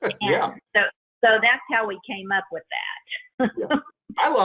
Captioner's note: laughs; laughs